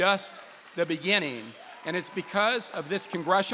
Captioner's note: applause